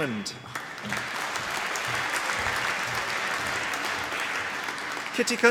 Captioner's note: applause